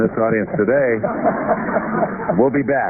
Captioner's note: laughter